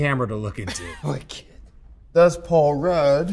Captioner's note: laughs